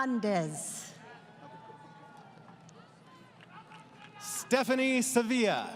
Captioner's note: applause